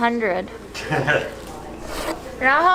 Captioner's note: laughs; speaking Chinese